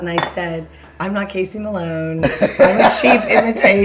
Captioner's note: laughing